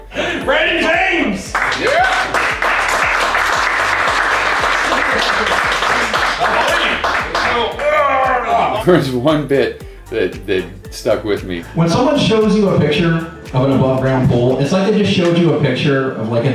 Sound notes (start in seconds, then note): 1.4 applause